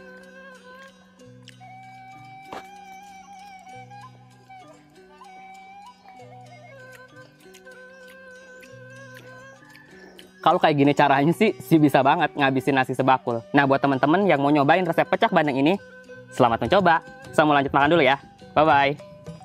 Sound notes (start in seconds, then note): 1.3 OH LORD! can't stop chewing